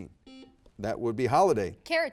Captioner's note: buzzer beeps